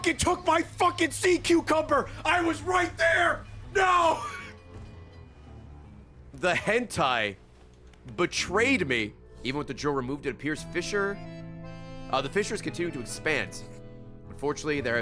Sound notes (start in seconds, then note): 4.6 laughs